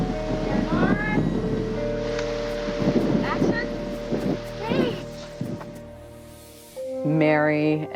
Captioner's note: wind blowing; film crew chattering